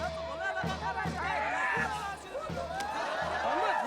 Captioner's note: yells; crowd Laughs; speaking Tibetan